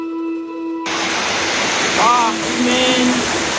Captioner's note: water rushes